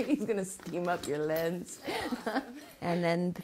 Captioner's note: laughs